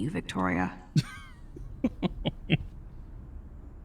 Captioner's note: laughs